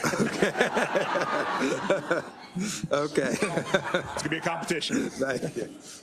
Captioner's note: laugh